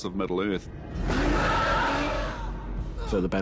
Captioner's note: roars